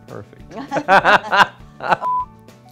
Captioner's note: laughing